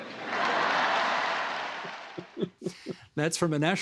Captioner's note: crowd cheering